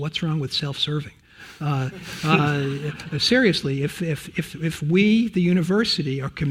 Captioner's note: laugh